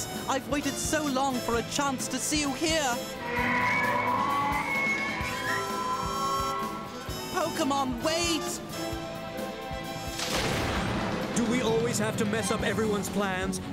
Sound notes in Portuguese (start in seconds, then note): 3.1 rugindo